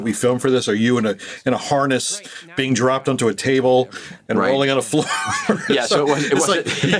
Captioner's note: laughs